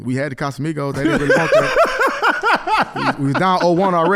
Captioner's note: laughing